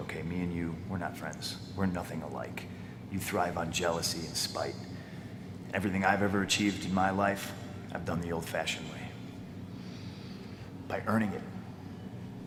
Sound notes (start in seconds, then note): none